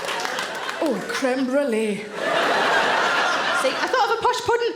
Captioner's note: audience laughing